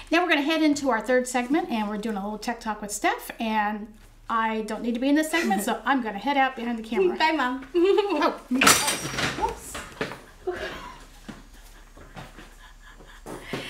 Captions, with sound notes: - Now we're gonna head into our third segment, and we're doing a little Tech Talk with Steph, and I don't need to be in this segment, so I'm gonna head out behind the camera. - Bye mom! (giggles) (crashing) - Woops! (quiet laughter)